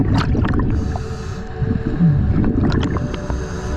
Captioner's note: water splashing